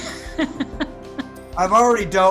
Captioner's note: laughing